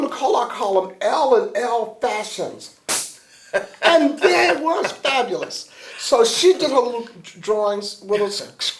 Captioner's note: laughter